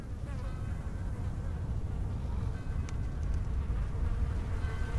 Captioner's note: wind blowing